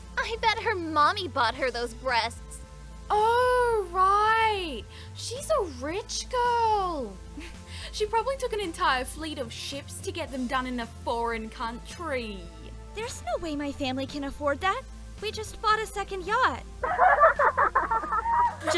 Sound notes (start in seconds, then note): 7.3 chuckles; 16.8 OTOME and GANG laugh